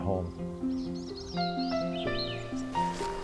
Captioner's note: birds chirping and trilling